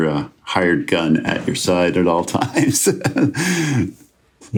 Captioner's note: laughs